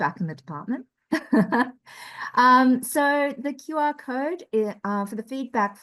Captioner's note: laughter